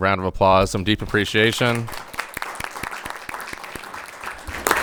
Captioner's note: crowd applauding